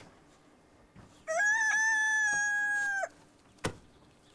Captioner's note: rooster crowing